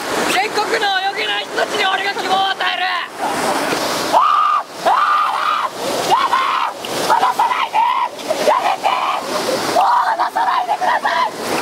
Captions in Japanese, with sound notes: 全国の泳げない人たちに俺が希望を与えるぅ！！ ウアーーーーッ！！ヤーーダァ！！！（絶叫） ヤダァー！！離さないでー！！ヤメテーッ！！（叫び） もう離さないでください！！（声も枯れるほどの叫び）